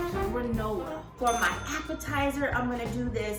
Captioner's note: dings